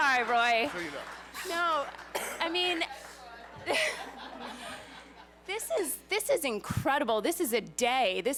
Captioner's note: laughs